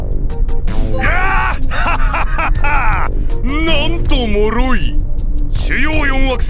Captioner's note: laugh